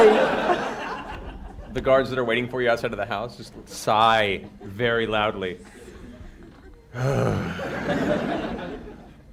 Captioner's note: sighs